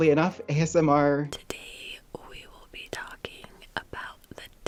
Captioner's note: whispering